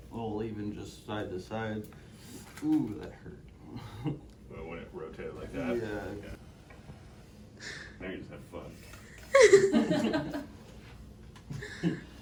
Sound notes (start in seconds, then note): 3.8 laughs; 9.3 all laugh